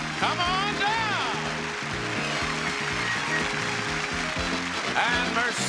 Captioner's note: audience clapping